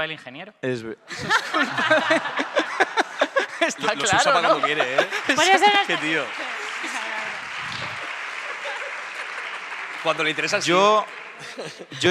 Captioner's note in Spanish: Aplausos y risas